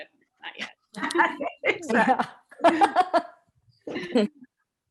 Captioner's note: laughter